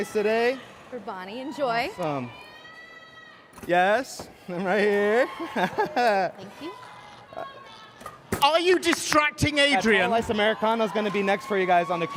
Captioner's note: cheers and applause